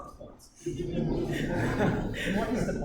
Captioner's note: laughter